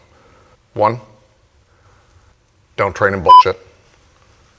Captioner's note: beep